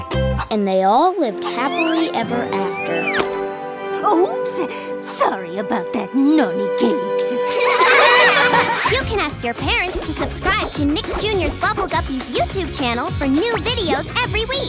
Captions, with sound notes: And they all lived happily ever after. Oops. Sorry about that, Nonny Cakes. [laughing] You can ask your parents to subscribe to Nick Jr's Bubble Guppies' YouTube Channel for new videos every week.